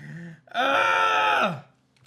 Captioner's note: grunts